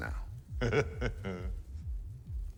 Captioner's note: chuckles